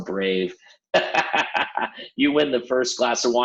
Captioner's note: laughs